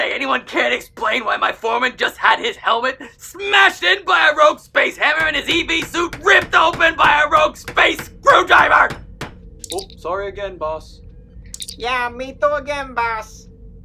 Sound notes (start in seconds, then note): 9.6 communicator chirp; 11.4 communicator chirp